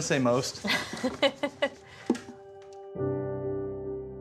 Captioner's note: laughs